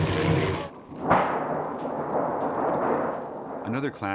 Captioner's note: thunder clapping